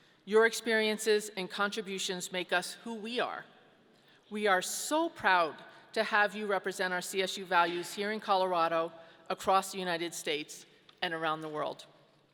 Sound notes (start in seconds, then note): none